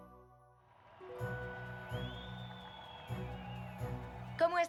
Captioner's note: cheers